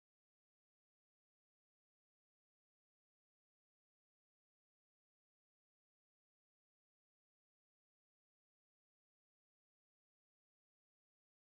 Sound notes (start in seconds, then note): none